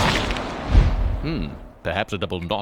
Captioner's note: screaming; thudding